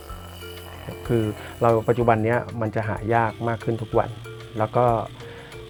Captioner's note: speaking foreign language